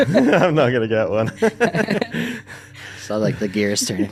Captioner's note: both laughing